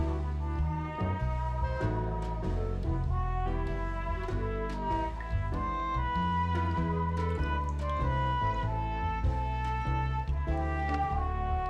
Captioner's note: tap running; water gushes